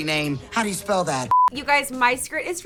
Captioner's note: beep